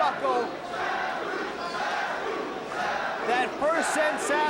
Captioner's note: spectators chanting "Sabu!"